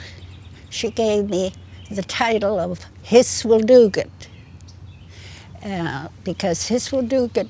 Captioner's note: in Gitxsan